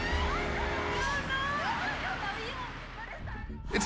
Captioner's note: screaming